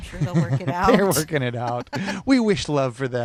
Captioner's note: laughing; laughs